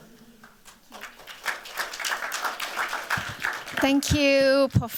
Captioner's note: applause